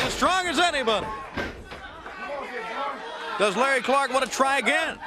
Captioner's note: crowd chatter